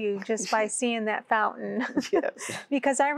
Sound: giggling

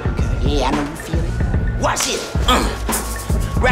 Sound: grunts

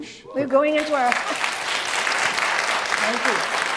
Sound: audience applauds

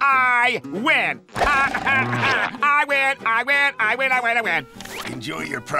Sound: laughing

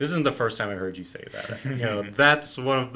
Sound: laughs

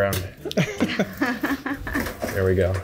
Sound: laughter

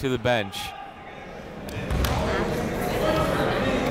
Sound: chatter

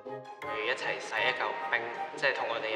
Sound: Cantonese

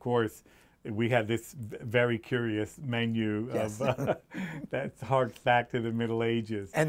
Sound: laughs

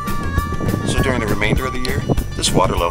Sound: voiceover

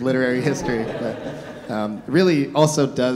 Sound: audience laughing

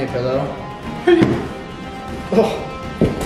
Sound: thud; laughs

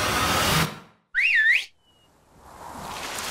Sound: whistling; wind blowing

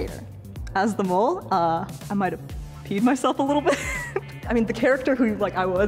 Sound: laughing

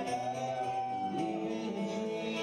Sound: audience cheering

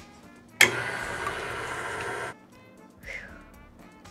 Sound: quiet upbeat music; blender whizzing

